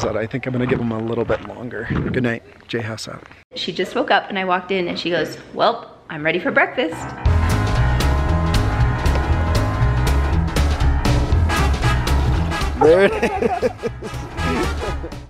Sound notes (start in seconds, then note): 7.2 upbeat jazzy music; 12.7 laughing